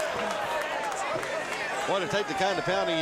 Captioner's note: crowd cheering